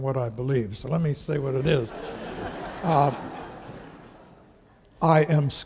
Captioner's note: audience laughing